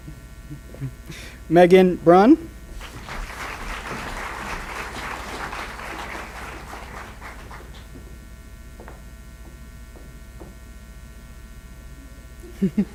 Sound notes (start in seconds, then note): 2.7 applause